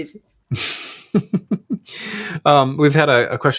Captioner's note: group laughing